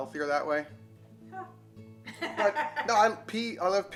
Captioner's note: laughs